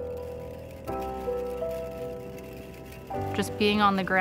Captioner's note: rattling